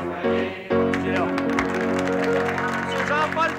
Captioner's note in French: applaudissements